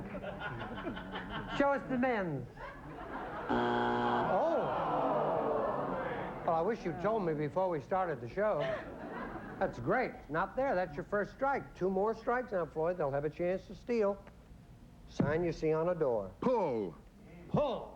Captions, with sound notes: SHOW US THE MEN. [BUZZER] OH! I WISH YOU'D TOLD ME BEFORE WE STARTED THE SHOW. THAT'S GREAT. NOT THERE. THAT'S YOUR FIRST STRIKE. 2 MORE STRIKES, NOW, FLOYD, THEY'LL HAVE A CHANCE TO STEAL. A SIGN YOU SEE ON A DOOR. PULL. PULL.